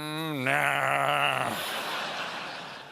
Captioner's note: laughter